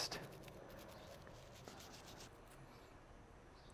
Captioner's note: brushing